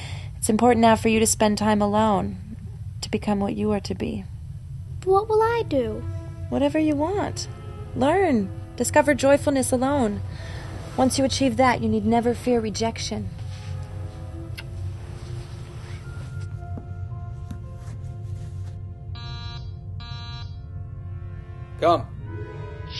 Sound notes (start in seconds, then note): 19.1 door buzz